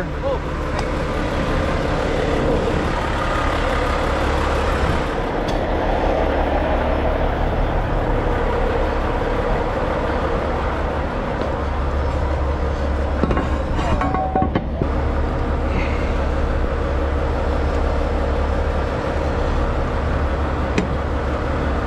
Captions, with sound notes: - Oh, thank you. (motor rumbling)